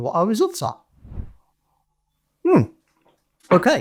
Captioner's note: graphics whooshing